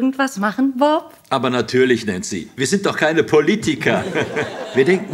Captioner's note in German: lacht